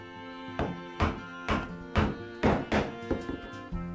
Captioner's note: hammering sound